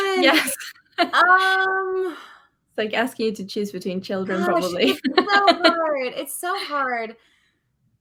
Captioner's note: laughs